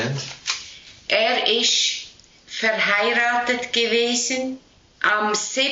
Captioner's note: speaking Swiss German